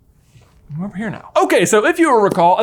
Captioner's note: chair rustling